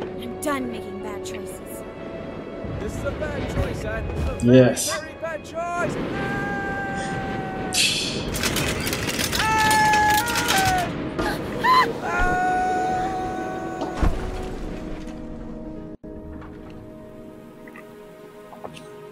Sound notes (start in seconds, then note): 7.7 Musky scoffs; 8.0 wings clattering; 13.9 soft crash